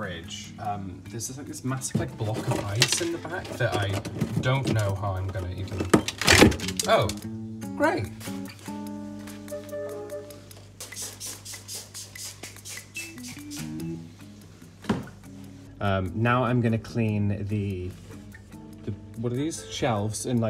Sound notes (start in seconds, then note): 5.5 ice cracks; 10.8 spraying